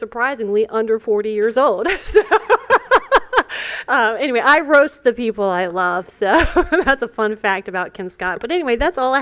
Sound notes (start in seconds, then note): 1.8 laughter